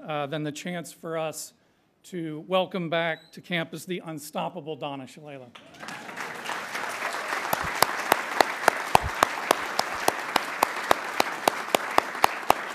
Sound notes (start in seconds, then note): 5.5 applause